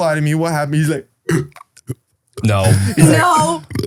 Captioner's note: belching